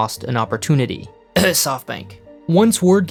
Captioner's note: cough